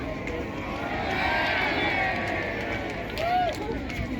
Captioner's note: cheer with the crowd